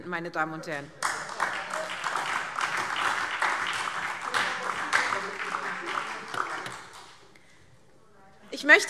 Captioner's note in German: Heiterkeit und Beifall SPD